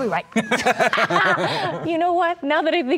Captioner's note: laughing